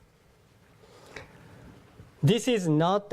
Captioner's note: none